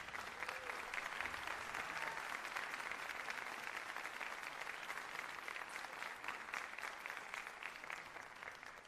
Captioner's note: applause